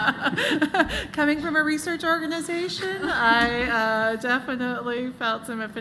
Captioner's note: laughter